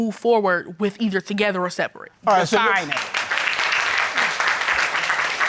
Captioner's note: audience applauds